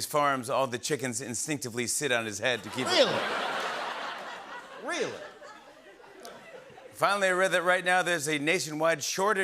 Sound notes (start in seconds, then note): 2.6 laughter